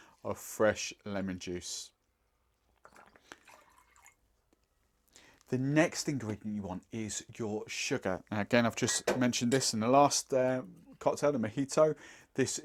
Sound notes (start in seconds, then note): 2.7 liquid hitting glass